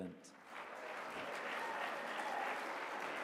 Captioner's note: applause